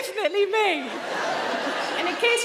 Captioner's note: audience laughing